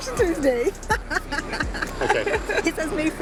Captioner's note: laughs